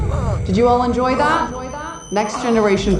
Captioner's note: echoing